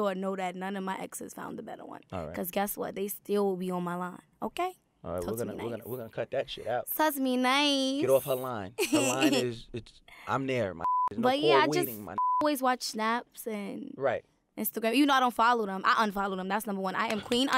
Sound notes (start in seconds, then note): 10.8 beeping